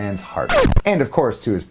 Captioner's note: record scratches